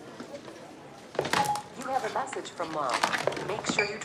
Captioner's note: computerized Voice